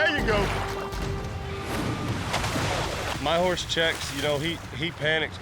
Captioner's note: splashing